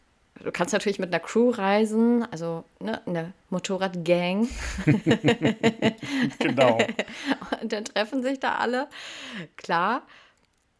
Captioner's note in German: gelächter